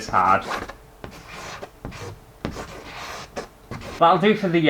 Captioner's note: pen Scraping On Canvas